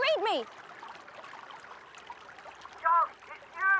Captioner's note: water rushing